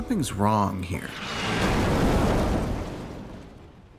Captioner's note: explosion